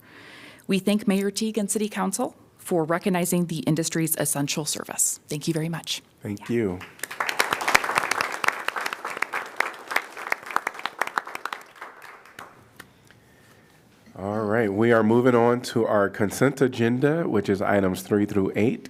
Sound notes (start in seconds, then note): 10.1 applause